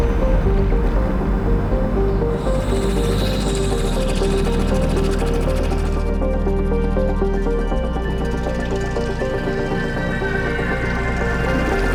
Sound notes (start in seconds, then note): 3.5 engine sounds; 8.4 intense music continues